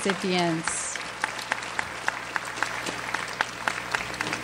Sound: audience applauds

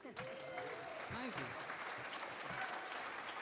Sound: audience cheering

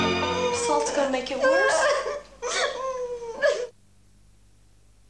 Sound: crying

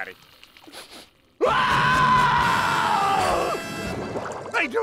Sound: screaming

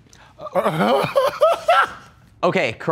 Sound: laughs

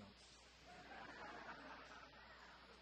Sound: audience chuckling

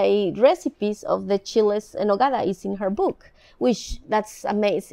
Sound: speaking in foreign language

